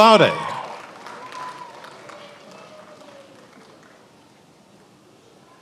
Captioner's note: attendees applauding and cheering